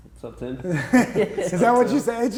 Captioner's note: chuckles; everybody laughs